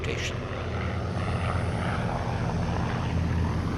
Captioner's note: plane roaring